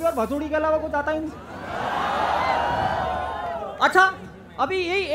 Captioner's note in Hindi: चियरिंग